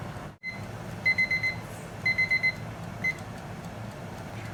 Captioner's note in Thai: เสียงนาฬิกาจับเวลาดัง